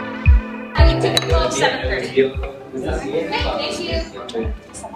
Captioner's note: background chattering